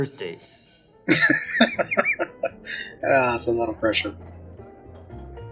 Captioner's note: laughing